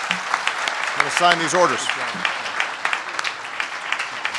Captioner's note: applause